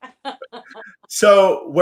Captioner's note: laughs